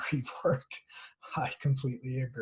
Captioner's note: laughter